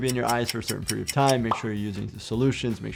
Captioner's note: solution popping